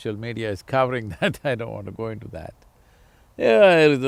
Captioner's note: laughs